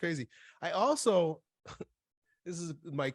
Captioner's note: chuckles